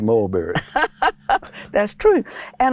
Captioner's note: laughter